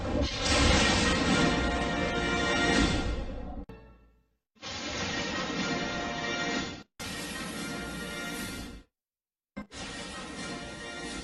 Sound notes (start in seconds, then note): 0.1 lightning crashing down as rousing fanfare plays; 4.5 lightning and music continuing